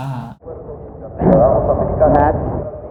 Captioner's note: agent clears throat